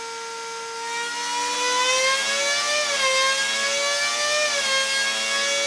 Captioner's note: revving intensifies